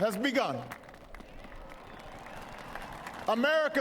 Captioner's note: applause